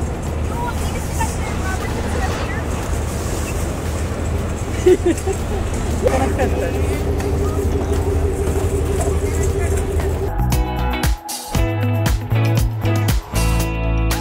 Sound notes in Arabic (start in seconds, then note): 4.6 ضحك; 10.3 تستمر الموسيقى المبهجة